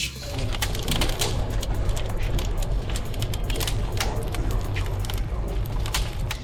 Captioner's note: fire crackling